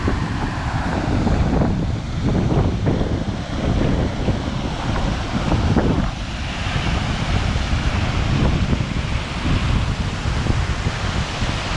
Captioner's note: water noise